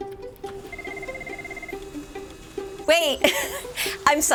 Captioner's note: bright playful music continues; phones ringing